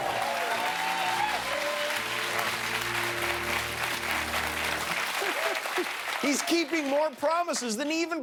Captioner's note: applause